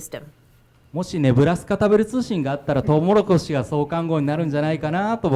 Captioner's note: speaking foreign language